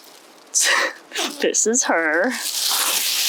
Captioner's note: laughs